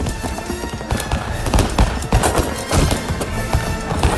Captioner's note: gunshots